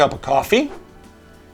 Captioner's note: whoosh